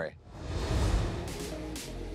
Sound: graphics whoosh; electronic music

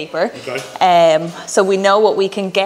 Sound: laughs

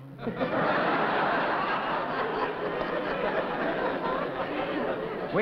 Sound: laughter

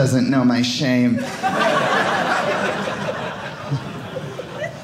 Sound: audience laughing

